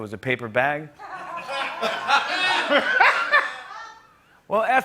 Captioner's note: laughter